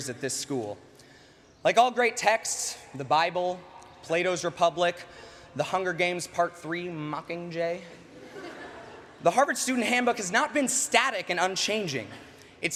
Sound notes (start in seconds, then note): 8.0 laughter